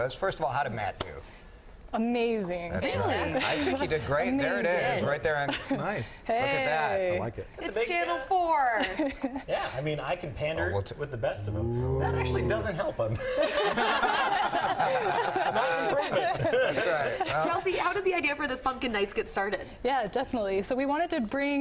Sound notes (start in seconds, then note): 13.1 laughter